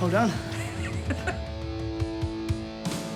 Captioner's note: laughs